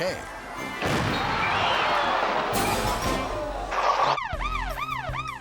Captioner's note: fireworks exploding; siren wailing